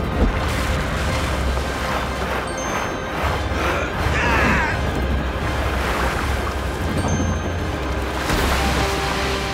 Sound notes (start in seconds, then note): 3.6 groaning